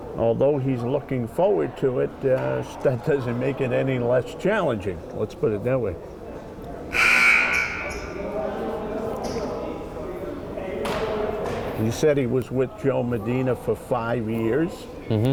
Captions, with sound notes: although he's looking forward to it, that doesn't make it any less challenging, let's put it that way. (buzzer buzzing) (crowd chattering) And he said he was with Joe Medina for five years,